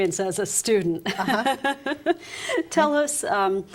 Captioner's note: laughter